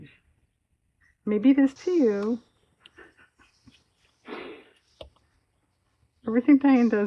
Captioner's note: laughs